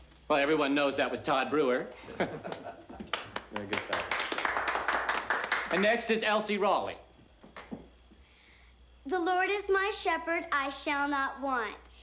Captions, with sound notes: - Well, everyone knows that was Todd Brewer. (man laughing) Very good, Todd. (crowd applauding) And next is Elsie Rawley. - The Lord is my shepherd, I shall not want.